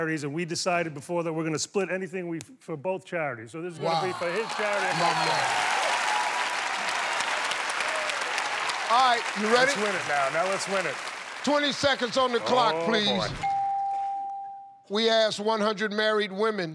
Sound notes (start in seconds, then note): 6.0 cheers and applause